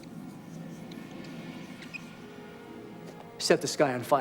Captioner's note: water run